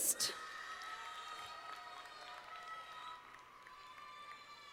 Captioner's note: audience applauding